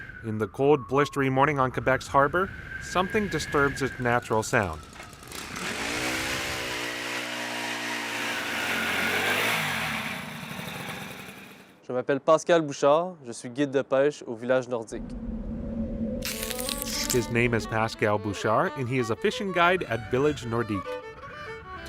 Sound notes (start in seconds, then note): 4.9 drilling; 12.5 speaking french